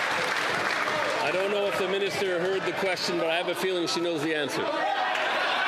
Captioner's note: some Applause